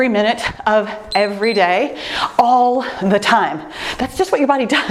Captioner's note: timer beeps